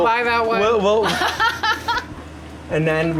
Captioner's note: laughs